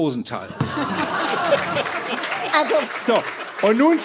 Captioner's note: laughter